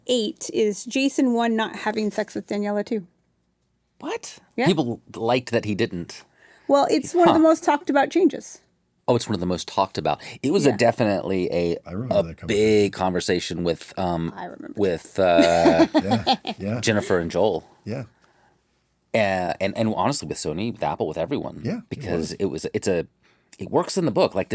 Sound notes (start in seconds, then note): 15.2 chuckles